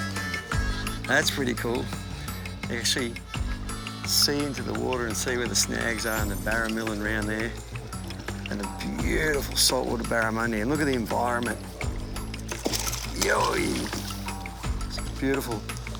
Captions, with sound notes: (water bubbling) Crocodiles are part of the Dhipirri experience. (water splashing) They're always top of mind. As croc populations continue to grow and human activity increases in well-known croc habitats,